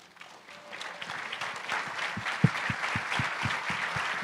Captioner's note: applause